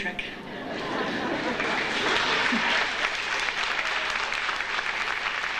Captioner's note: audience chuckles and applauds